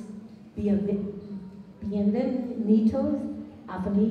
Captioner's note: non-english speech